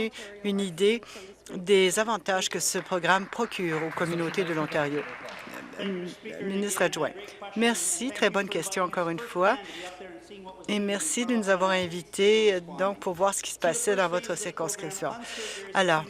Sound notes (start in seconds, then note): 6.7 applause